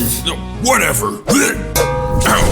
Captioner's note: retches